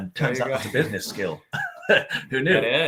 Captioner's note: laughing